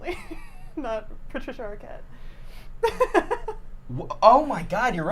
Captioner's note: laughs